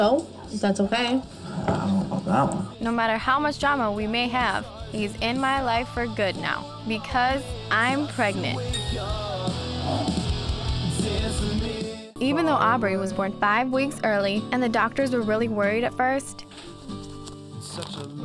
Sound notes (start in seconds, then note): 8.7 bell chiming